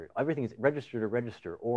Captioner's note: none